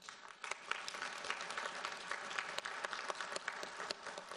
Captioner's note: audience applauds